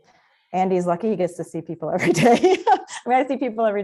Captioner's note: laughs